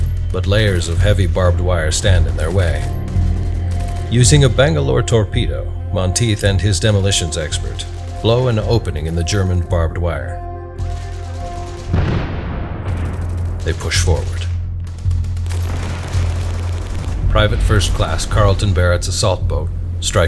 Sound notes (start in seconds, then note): 10.8 machine gun fire cracking; 11.0 dramatic music